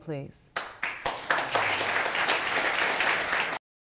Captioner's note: audience applauding